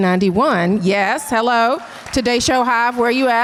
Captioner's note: audience cheers and applause